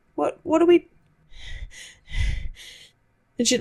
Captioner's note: hyperventilates